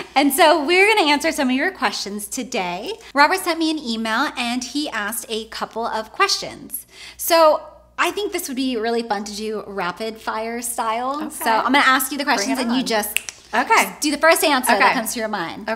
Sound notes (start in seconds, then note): 13.1 snaps